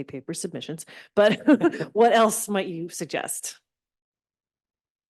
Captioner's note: chuckles